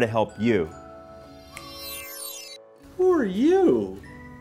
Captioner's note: fingers snap